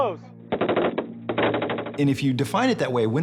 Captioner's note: gunfire